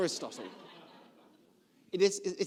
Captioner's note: laughs